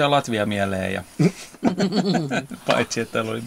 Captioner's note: laughter